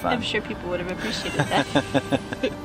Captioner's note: both laugh